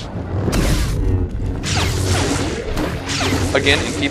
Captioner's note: lightsaber strikes